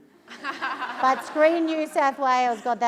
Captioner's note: laughter